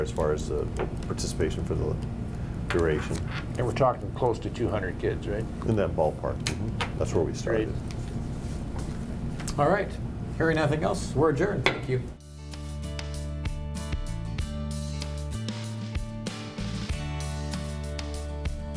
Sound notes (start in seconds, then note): 11.8 gavel knock